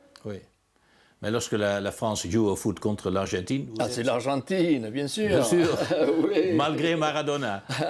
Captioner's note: laughs